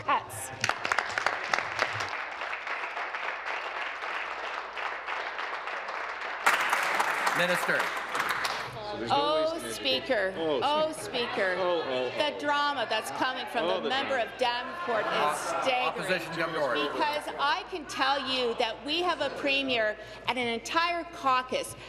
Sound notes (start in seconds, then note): 4.0 applause